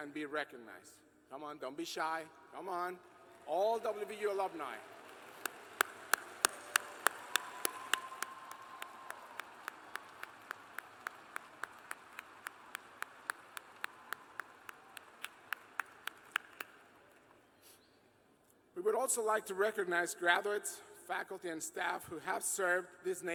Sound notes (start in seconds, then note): 10.7 cheers and applause